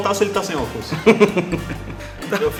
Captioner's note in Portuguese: Risos